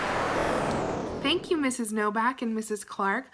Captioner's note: whooshing